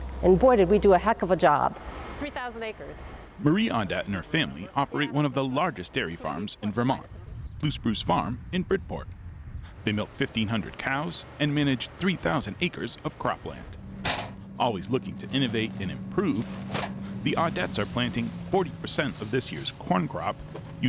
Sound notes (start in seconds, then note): 13.9 metal clatters